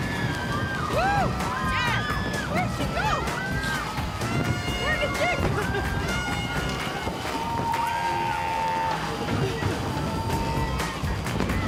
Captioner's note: cheering